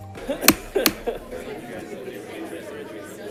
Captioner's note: man laughing; hitting on the table; background chatter